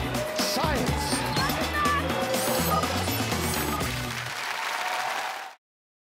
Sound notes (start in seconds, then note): 2.2 cheering and Applause